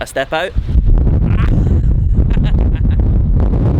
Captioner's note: blowing